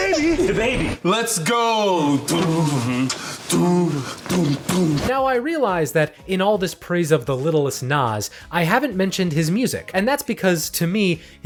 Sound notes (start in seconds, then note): 2.2 all vocalizing